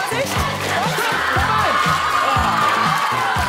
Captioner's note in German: Jubel